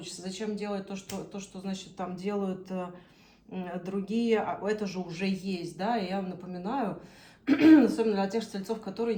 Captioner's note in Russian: откашливается